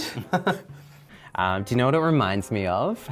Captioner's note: laughs